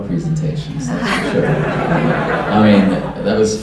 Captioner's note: laughter